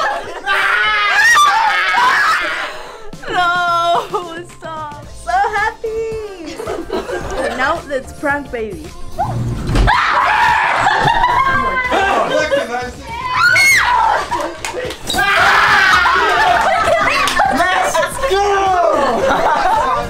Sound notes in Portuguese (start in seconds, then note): 0.4 Gritos; 9.8 Gritos